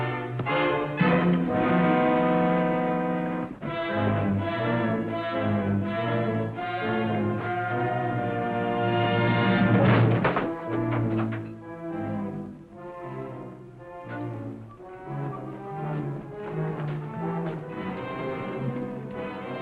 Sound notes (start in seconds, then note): 0.3 worrying music; 9.8 thud; 13.2 worrying music